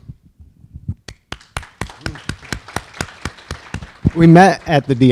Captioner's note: audience applause